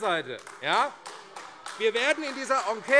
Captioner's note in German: Beifall AfD